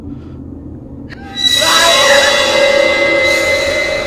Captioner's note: screams